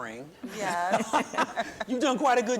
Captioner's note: chuckling